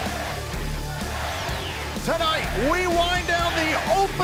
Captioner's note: fans chanting